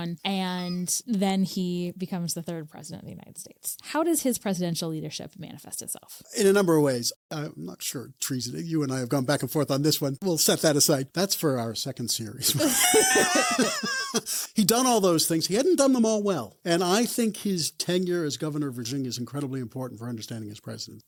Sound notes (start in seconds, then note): 12.4 both laugh